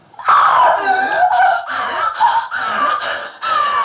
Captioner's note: screaming and gasping